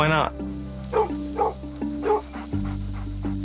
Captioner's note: barking